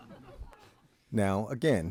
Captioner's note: audience chuckling